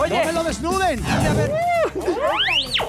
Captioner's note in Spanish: Pitido